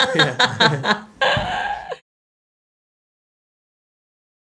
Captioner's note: Florence laughing